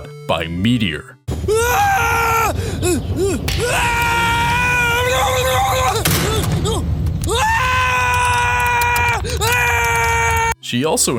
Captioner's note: screams of terror